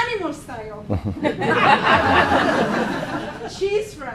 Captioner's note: laughing